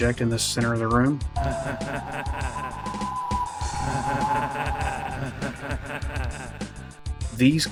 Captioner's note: evil laugh